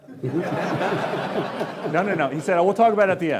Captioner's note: laughing